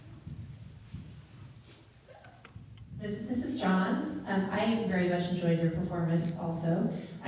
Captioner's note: none